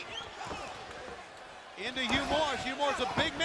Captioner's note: crowd chatter